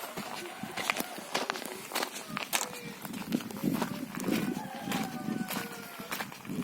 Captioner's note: village sounds playing on the background